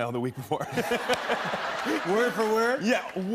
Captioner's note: laughter